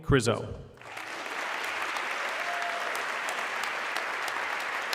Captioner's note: audience clapping